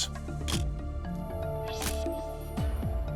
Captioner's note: camera shutter click